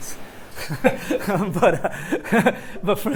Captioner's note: laughs